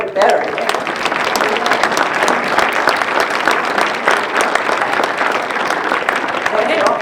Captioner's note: applause